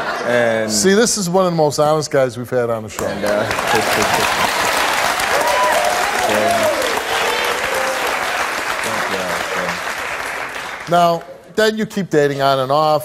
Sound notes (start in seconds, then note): 3.1 audience cheers